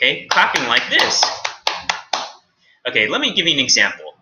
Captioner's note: claps